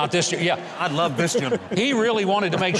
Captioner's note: crowd laughing